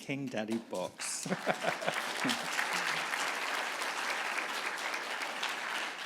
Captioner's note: audience applauding